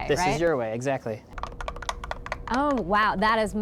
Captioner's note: cylinder hitting